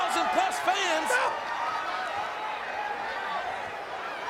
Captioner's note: Jerry shrieks